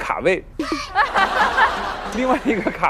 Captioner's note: can't stop laughing